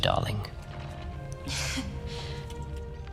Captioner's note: nervous laugh